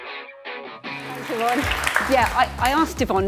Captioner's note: audience applauding